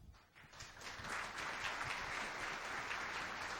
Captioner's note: crowd applauds